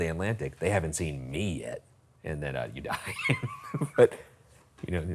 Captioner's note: laughs